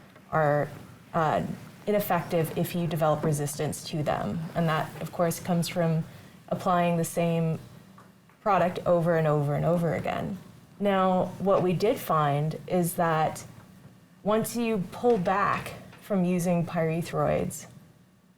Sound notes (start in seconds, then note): none